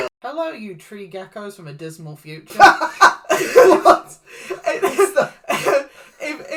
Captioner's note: laughs